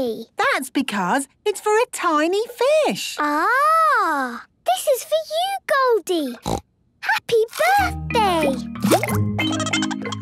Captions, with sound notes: - That's because it's for a tiny fish. - Ah! This is for you, Goldie. (snorting) Happy birthday! (Goldie giggling)